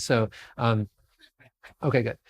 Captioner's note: murmur